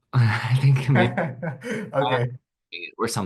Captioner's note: laughs